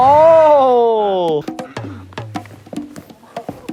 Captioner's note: bouncing